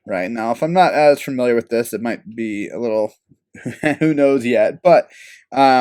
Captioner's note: laugh